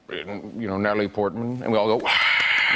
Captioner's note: imitates cheering